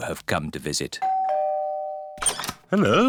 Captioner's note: doorbell rings